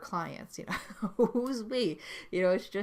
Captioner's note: laughs